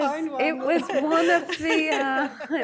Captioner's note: laughter